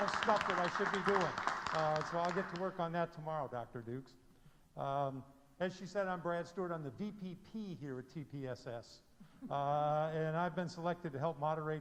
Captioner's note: applause